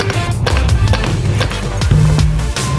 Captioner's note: clicking sounds; sledgehammer hitting tire